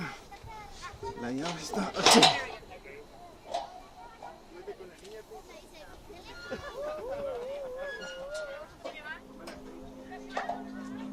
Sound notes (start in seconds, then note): 1.8 speaking foreign language; 8.1 children laughing